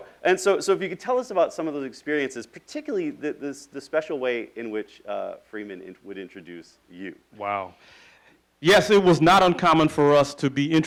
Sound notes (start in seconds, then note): none